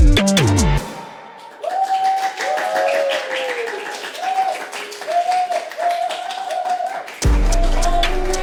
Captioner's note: cheering; clapping